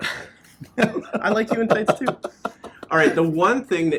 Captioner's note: laughs